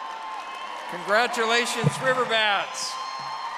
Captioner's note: audience applauding